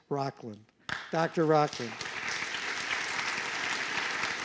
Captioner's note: applause